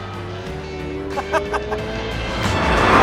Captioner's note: laughs